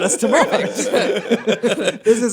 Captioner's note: laughter